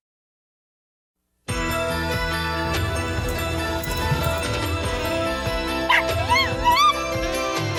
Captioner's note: Caprice hisses and meows and Ella barks